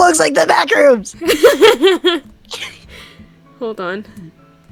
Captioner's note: laughs evilly